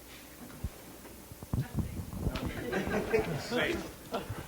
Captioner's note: laughter